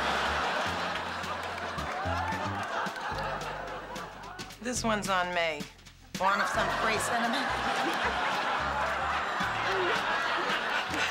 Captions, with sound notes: This one's on me. You want some free Cinemax? ( both laughing )